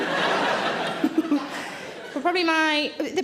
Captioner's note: Sarah giggles